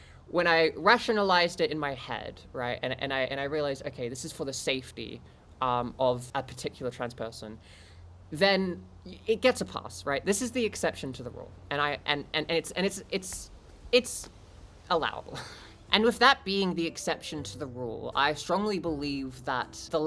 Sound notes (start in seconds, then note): 13.1 stuttering